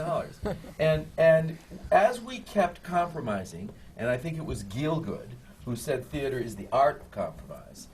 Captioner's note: laughs